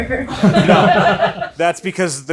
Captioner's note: audience laughs